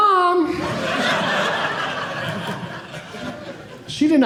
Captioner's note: audience laughing